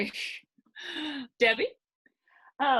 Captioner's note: sighing